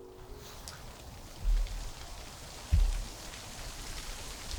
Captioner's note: wind whooshing